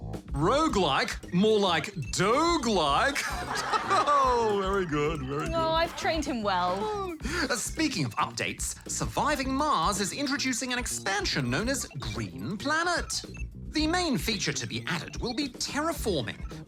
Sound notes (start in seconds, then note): 2.8 laughs; 3.0 laughter